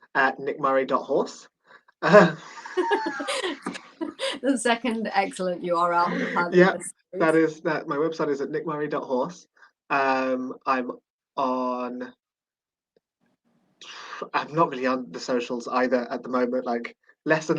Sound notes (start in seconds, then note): 2.0 laughter